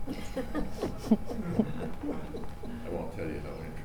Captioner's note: laughing